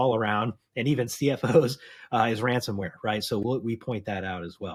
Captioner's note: chuckles